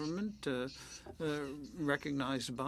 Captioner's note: speaking French